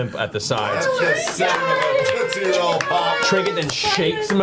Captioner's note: all cheer